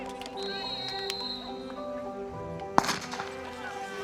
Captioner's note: racers chattering; whistle tweeting; gun bangs